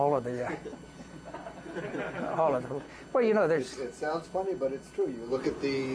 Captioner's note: laughter